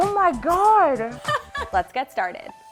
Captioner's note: chuckles